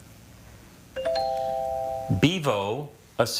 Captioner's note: text chiming